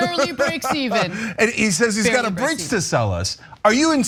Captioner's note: laugh